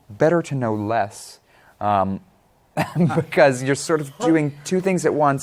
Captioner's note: chuckling